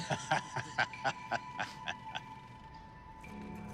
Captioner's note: laughing